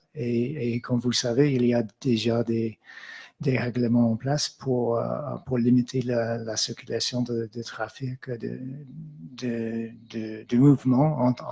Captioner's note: speaking in French